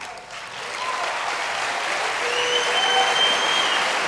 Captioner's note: applause